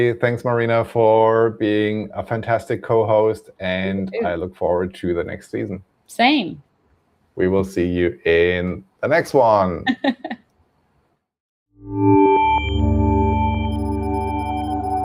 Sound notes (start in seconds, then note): 9.9 laughs